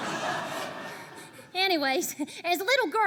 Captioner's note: laughter